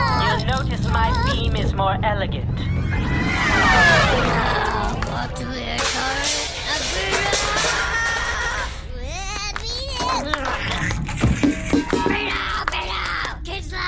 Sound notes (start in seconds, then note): 2.4 ship-whoosh audio transition; 10.8 hissing noises, banging on pots and pans